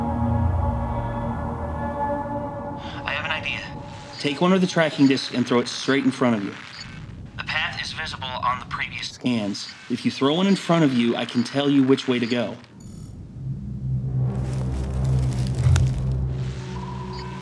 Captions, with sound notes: (radio) I have an idea. Take one of the tracking disks and throw it straight in front of you. (radio) The path is visible on the previous scans. If you throw one in front of you I can tell you which way to go.